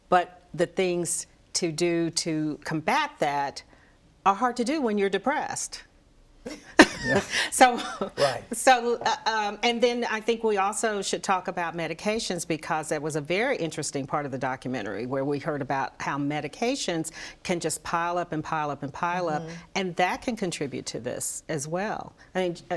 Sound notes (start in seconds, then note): 6.7 laughs